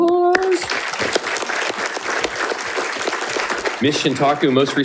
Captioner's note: audience applauding